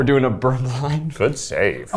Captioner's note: laughing